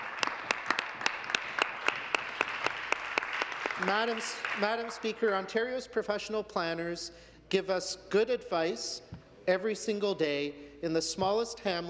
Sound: some Applause

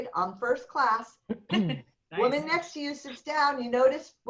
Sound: laughter

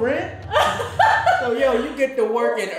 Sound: laughter

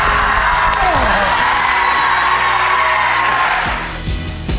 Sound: audience cheering; upbeat music

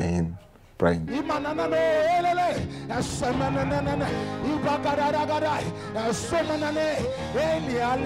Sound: praying in tongues

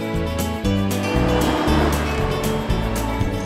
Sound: wind rustling; atv rumbling

